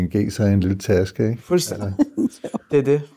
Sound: laughs

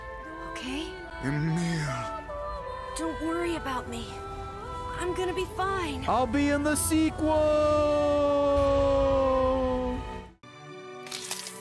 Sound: laughs

